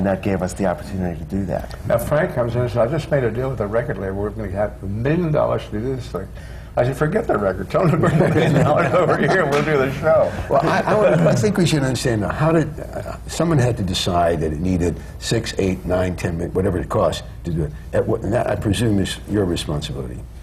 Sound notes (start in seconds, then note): 7.8 laughter